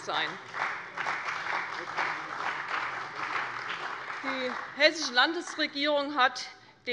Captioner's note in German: Beifall bei der CDU und dem BÜNDNIS 90/DIE GRÜNEN